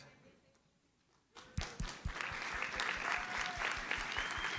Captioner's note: audience applauds